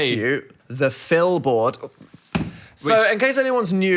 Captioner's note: hand smacking